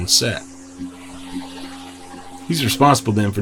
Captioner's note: motor whirring